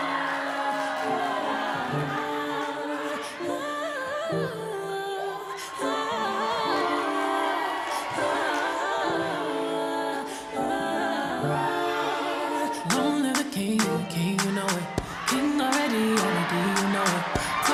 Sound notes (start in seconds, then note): 3.2 haa hoo, haa hoo